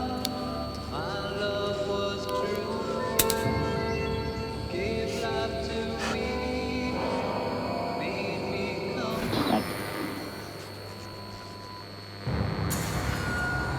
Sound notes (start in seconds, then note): 9.2 static crackles